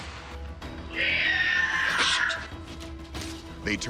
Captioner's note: screeching